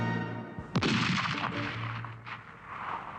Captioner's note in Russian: выстрел